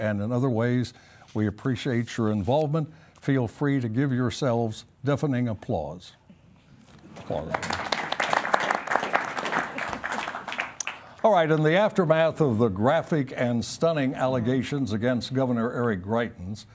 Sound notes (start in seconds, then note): 7.2 applause